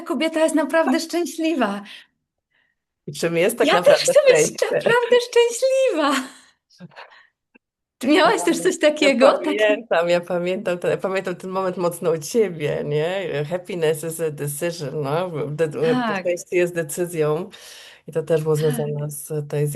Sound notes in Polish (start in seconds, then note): 4.4 śmiech